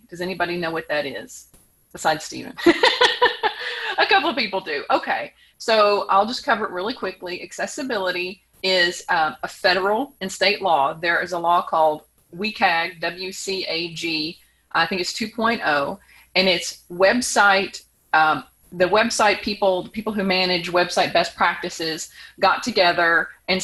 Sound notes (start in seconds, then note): 2.6 chuckles